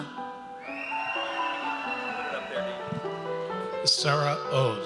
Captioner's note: audience cheers